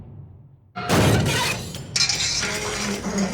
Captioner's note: crash; scraping